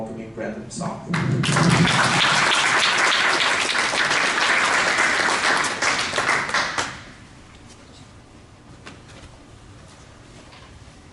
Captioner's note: applause